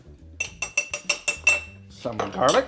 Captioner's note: clinking